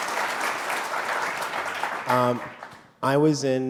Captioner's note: applause